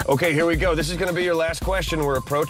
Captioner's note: laughing